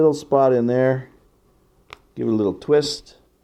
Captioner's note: click